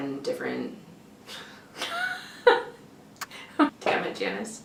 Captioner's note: laughter